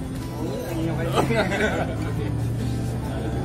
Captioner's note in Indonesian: laugh